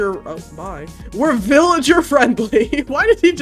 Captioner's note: laughs